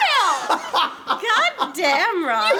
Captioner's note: laughs